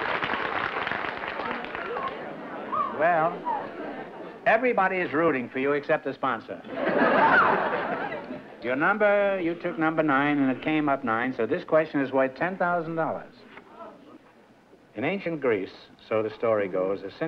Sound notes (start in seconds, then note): 6.6 laughter